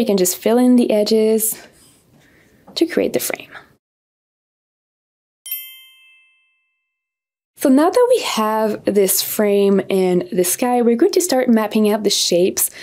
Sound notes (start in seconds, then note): 5.4 bells dinging